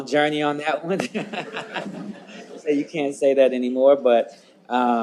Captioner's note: laughs